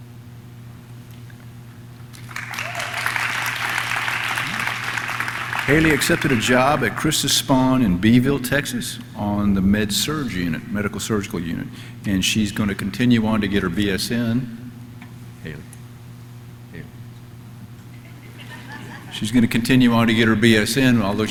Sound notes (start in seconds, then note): 2.1 audience clapping; 17.9 audience laughs